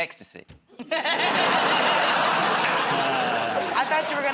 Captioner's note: laughter